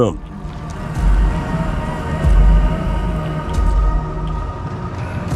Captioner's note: footsteps rumbling